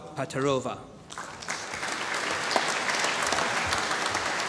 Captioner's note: applause